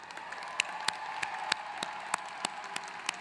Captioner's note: applause